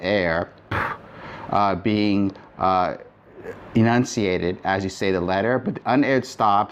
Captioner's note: blowing